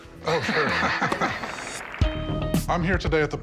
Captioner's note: laughter